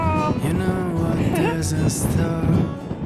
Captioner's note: chuckles